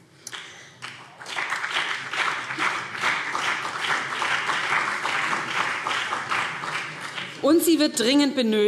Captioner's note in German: Beifall BÜNDNIS 90/DIE GRÜNEN und CDU